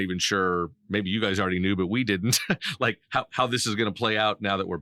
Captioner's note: laughing